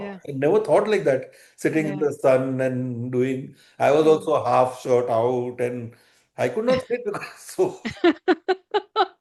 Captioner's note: laughter